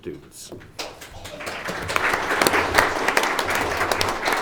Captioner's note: audience applauds